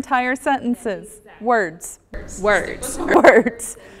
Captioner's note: laugh